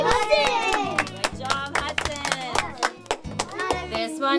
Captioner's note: applause